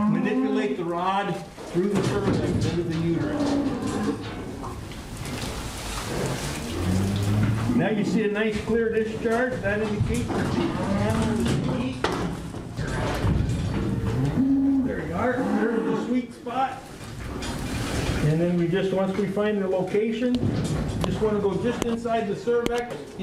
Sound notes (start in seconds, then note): 0.0 cattle sounds; 3.7 cattle sounds